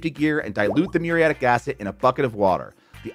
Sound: graphics popping

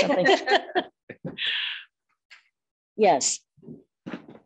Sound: women chuckling

